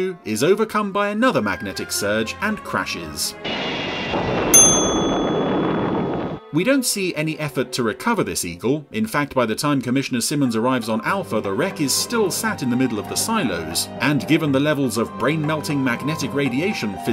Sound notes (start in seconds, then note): 4.5 bell dings